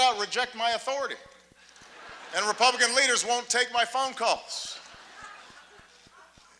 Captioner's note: laughter